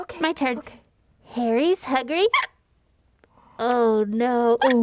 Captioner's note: hic